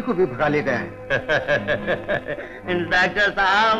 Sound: laughing

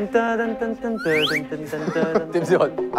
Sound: sniffing

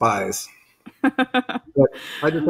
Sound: laughing

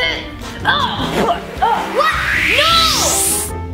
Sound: grunts

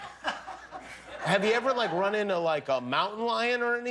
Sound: laughter

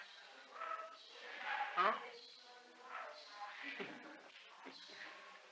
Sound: laughter

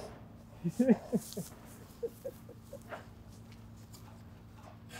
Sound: laughing

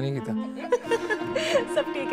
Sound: laughing

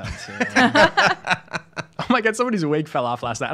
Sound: laughing

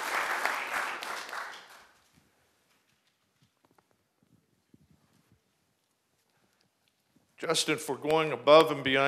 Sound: applause

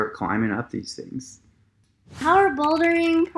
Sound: keyboard clicking

